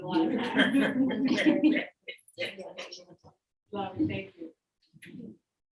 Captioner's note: audience members laughing